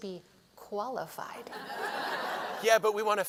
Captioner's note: laughter